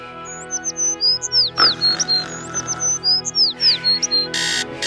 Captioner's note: birds chirping